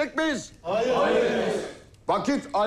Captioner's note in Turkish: Hep bir ağızdan